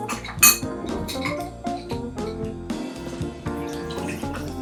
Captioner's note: glass clinking; drink pouring